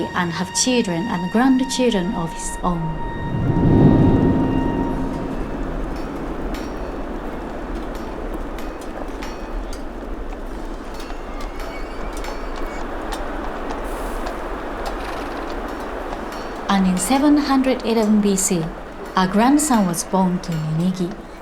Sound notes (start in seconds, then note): 3.6 soft expectant music; 3.6 wind whooshing